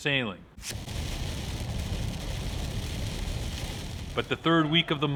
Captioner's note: rain hitting windshield